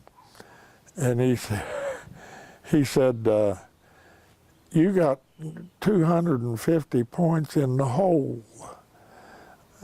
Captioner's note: laughs